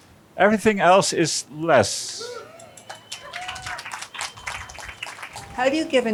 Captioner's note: cheering and applause